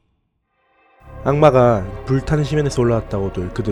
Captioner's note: reading Narration